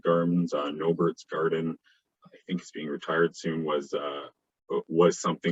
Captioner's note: murmurs